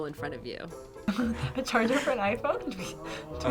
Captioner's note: laughs